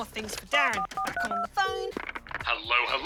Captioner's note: phone beeps, rings